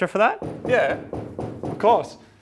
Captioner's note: hollow knocking